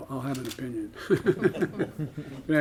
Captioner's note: laughter